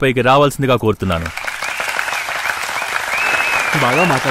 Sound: applause

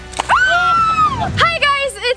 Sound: balloon explodes; girl screams

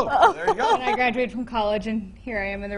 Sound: interviewers laughing

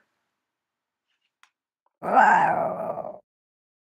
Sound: cat growling

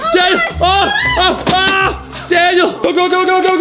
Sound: screaming

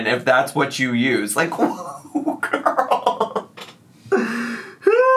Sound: laughs and groans

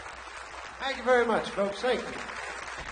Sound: audience applauds

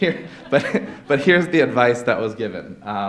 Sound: laughter

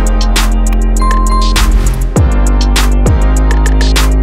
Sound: bell ringing

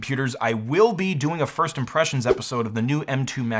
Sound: swoosh

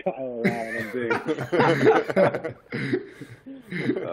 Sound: laughter

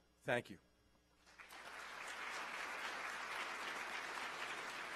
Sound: applause

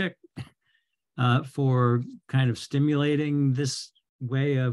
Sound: chuckles

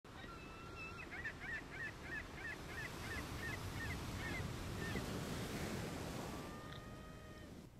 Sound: seagulls

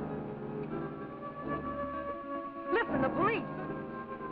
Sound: sirens blaring

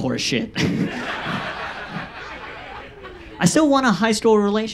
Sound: audience laughs

